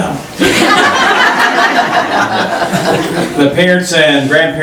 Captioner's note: laughing